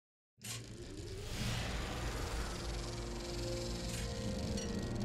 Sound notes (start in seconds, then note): 1.6 film reel humming